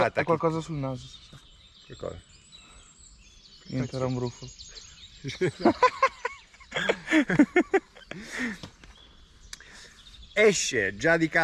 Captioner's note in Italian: Risate